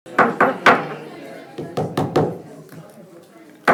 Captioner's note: gavel banging